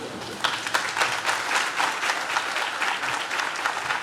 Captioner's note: audience claps